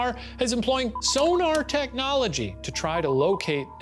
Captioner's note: sonar beeps